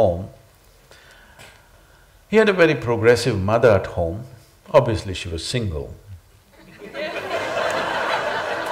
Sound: laughter

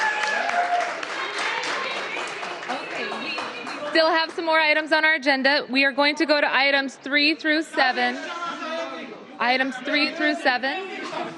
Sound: cheers and applause

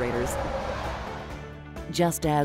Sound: truck passing

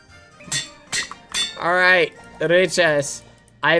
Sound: anvil clanking

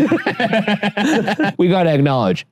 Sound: laughs

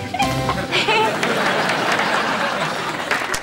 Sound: clapping

